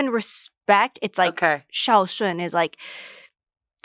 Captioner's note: speaks foreign language